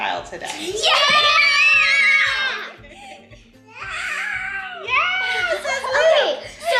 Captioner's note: shouting in excitement